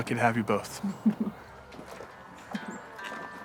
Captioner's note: laughs